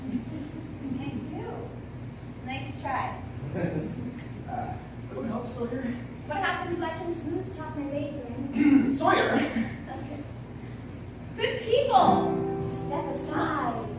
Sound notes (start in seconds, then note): 3.5 nervous laugh; 8.5 clears throat